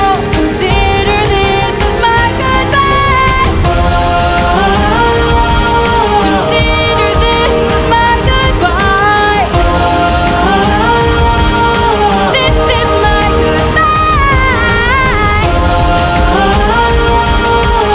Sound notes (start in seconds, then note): 8.5 ohh; 15.4 ohh